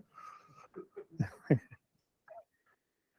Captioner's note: laughs